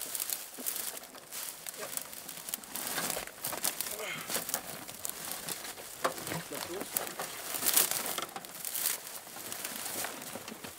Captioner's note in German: Rascheln, Knirschen